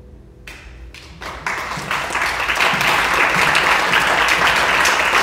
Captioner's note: audience clapping